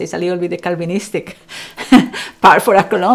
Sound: laughs

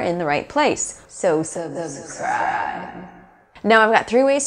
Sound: loud shriek

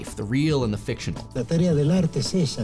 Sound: speaking spanish

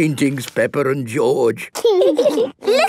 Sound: laughing

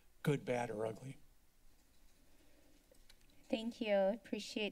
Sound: silence

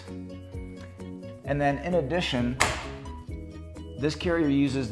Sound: carrier unlocking

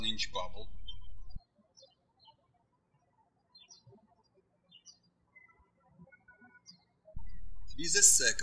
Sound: birds chirping

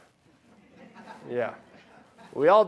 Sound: laughing

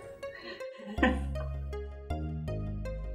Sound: laughs

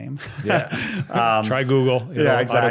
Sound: both laugh

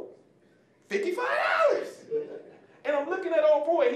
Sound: audience laughing

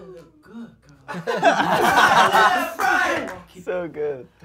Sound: laughing

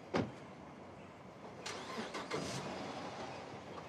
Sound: engine starts

